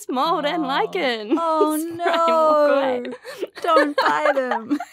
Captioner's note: imitating commercial